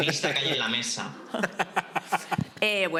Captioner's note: laughs